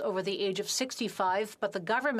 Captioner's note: speaking FRENCH